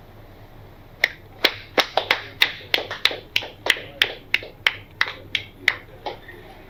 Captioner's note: slow claps